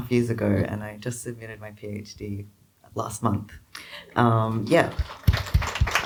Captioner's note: crowd applause